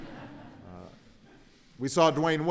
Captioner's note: laughter